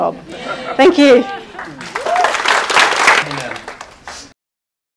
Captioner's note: audience clapping